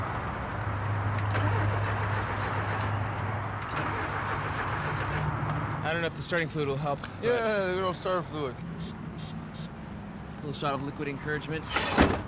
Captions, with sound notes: (starting the engine) - I don't know if the starting fluid will help. - Yeah, a little starter fluid. - Little shot of liquid encouragement.